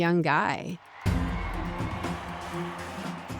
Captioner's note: cheers and applause